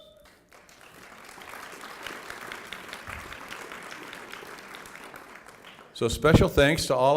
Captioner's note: applause